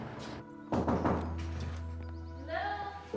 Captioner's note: soft knocking